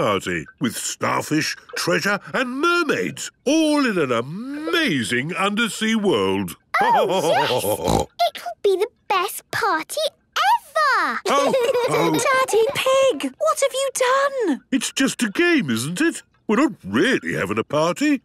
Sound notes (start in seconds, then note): 6.3 laughter and snorting; 11.2 laughter